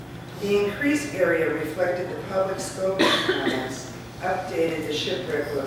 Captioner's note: ?*coughing